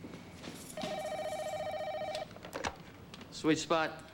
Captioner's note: tephone rings